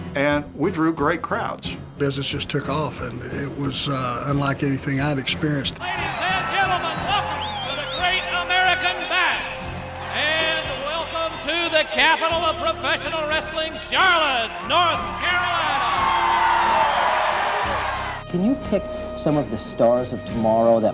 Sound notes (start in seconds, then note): 15.8 audience cheers